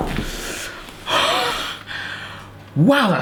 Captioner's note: groaning; exhaling deeply